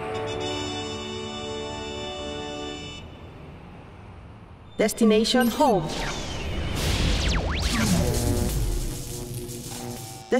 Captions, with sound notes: (robot voice) DESTINATION HOME. (static noise)